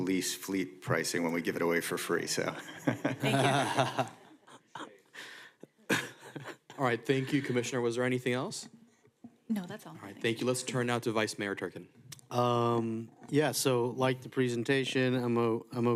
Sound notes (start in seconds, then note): 5.8 laughter